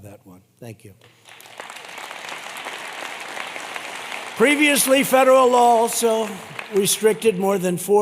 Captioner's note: applause